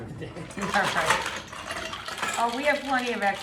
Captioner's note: ice shaking